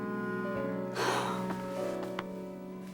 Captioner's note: exhales